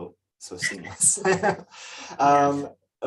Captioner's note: laughs